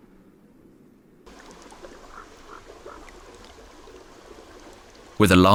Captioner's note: delikatny plusk wody, krakanie kruków, szum wiatru